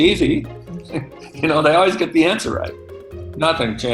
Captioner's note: laughs